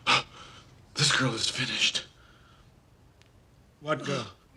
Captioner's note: exhaIes sharpIy